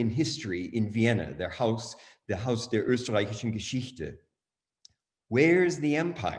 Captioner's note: german